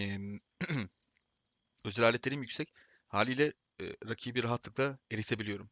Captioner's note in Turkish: boğazını temizler